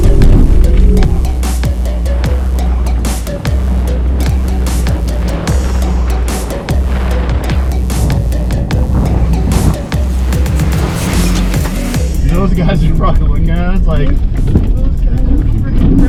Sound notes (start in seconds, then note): 1.3 fun music; 3.5 engine roaring